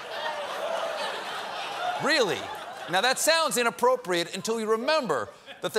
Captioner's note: laughter